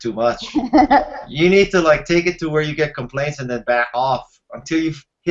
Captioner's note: laughing